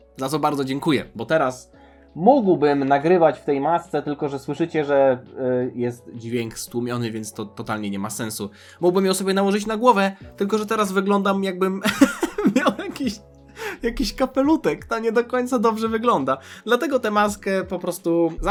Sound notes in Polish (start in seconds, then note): 11.8 śmiech